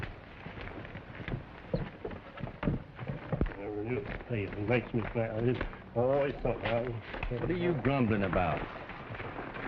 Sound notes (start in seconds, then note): 3.4 grumbling quietly